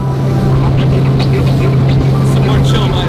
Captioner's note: boat engine throbs